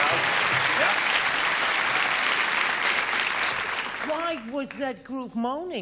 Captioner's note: applause